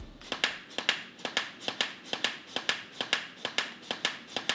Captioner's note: loud clicking